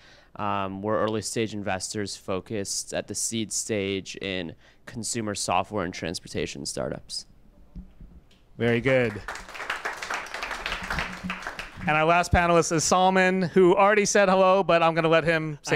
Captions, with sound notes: We're early stage investors focused at the seed stage in consumer software and transportation startups. - Very good. (applause) And our last panelist is Salman, who already said hello, but I'm gonna let him say--